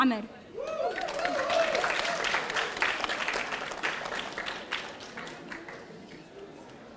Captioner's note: audience cheering; audience applauding